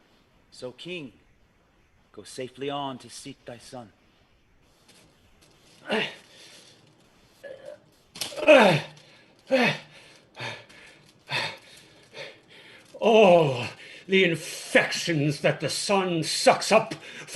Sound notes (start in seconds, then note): 8.3 grunting; 8.5 heavy breathing